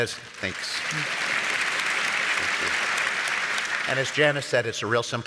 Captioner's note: audience applauds